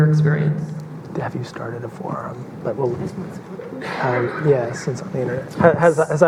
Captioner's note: murmurs